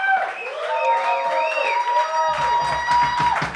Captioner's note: people cheering